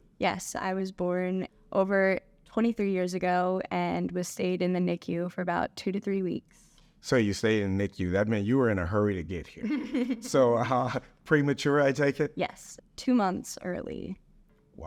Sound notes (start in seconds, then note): 9.6 laughs